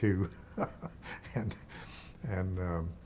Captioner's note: chuckling